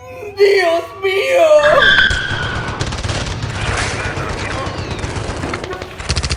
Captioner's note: sirens screeching; guns firing